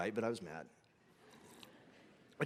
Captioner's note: congregation laughing